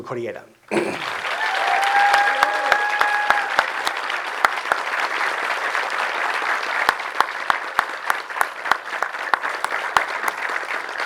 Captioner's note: audience applause and cheering